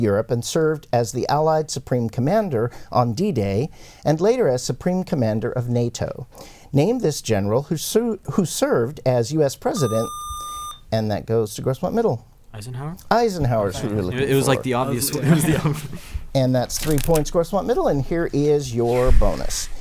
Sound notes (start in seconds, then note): 9.7 buzzer